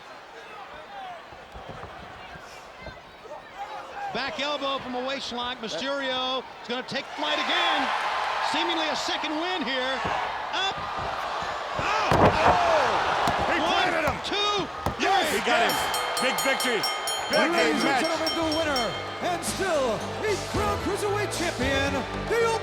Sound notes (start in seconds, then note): 0.3 crowd chattering; 7.7 crowd cheering; 12.7 wrestlers thudding